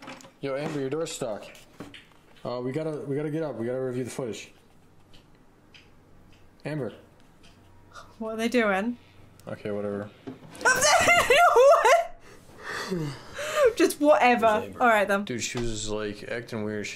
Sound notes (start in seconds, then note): 10.6 laughing; 12.6 Chester yawning